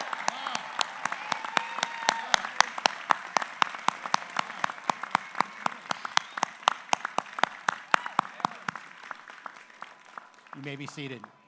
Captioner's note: applause